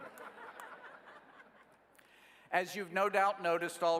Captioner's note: laughing